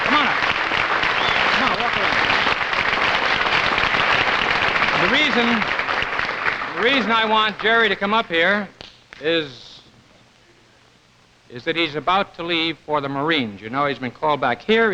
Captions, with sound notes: Come on up. Come on, walk over here. (audience applauding) The reason... The reason I want Jerry to come up here is... Is that he's about to leave for the Marines. You know, he's been called back.